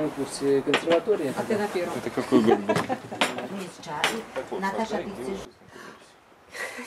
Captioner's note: laughing